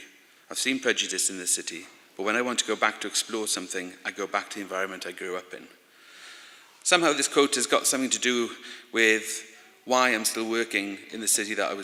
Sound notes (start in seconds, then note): none